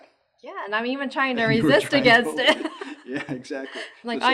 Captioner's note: laughs